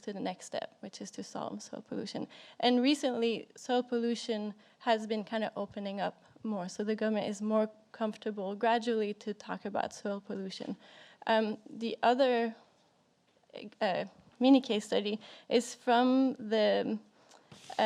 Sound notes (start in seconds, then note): none